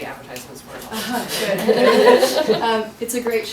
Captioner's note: audience laughing